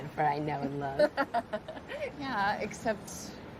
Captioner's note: laughs